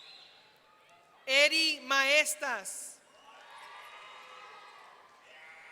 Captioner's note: audience cheering